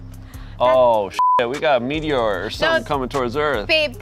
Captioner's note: beep